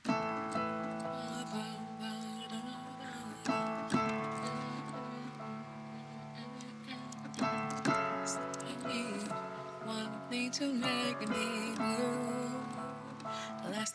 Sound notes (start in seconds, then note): 0.2 piano plays; 1.9 hums